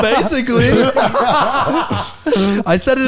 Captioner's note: all laughing